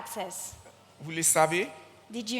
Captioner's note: continues in French